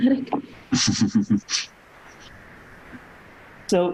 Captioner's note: chuckles